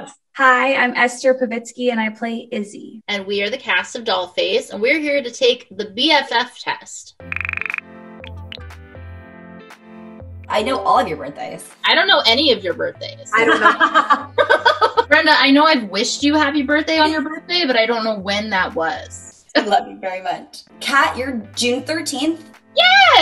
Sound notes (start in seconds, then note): 7.5 soft upbeat music; 13.3 Esther laughing; 13.3 Kat laughing